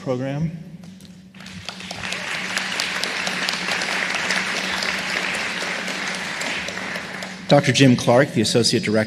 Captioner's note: applause